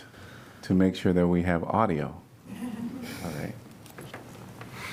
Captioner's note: laughter